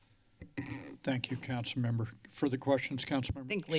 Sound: microphone squeaks

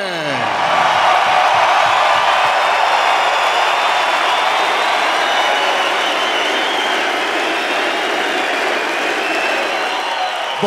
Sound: Applause and P.K.! chants

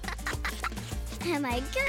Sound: laughing

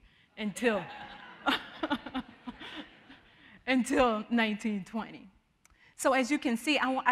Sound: all laughing

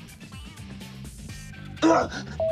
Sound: grunts

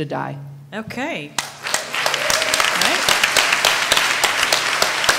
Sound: applause

